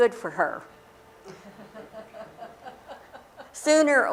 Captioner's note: laughter